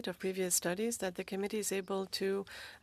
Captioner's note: speaking French